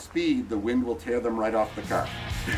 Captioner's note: upbeat music; laughs